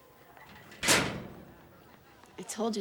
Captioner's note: locker slams